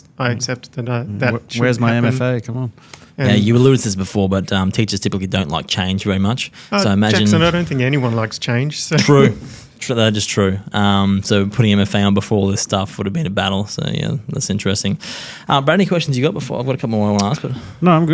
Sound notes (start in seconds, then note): 6.8 laughs